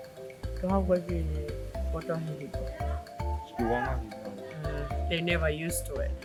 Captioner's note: speaking in Tongan